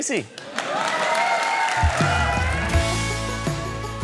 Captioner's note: cheering, applause